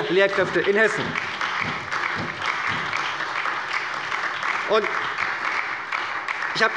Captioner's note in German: Beifall bei der SPD